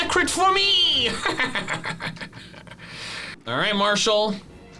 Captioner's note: laughs